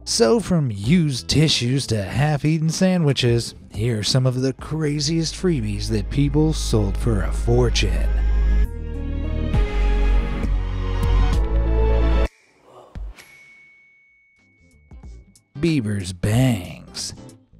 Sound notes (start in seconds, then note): 8.4 light suspenseful music; 13.1 bell dings